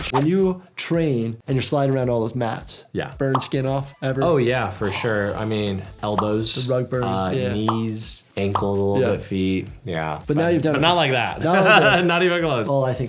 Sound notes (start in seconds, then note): 11.4 laughs